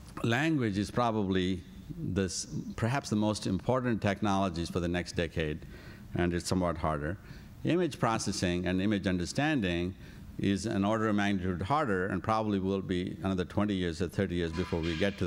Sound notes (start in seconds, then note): none